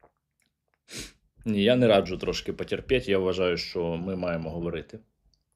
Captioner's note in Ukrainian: сопіння